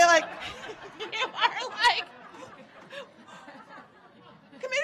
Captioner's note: audience laughing